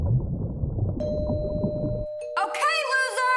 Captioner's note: water burbles; doorbell rings